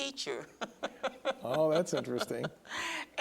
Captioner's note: laughs